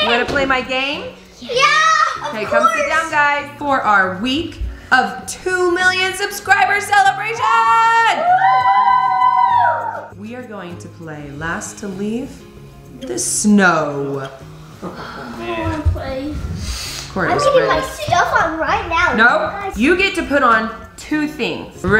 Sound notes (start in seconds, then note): 8.0 cheering